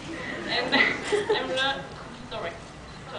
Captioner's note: laughs